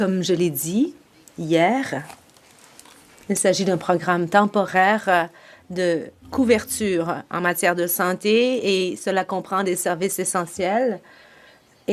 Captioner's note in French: voix de l'interprète